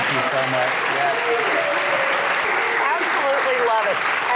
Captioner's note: audience applauds